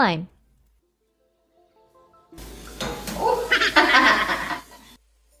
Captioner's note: Lime thuds on stove; me chuckling